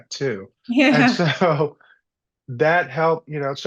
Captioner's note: laughs